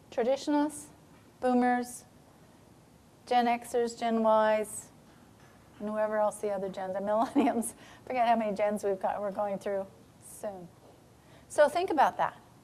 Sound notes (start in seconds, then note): 7.2 chuckling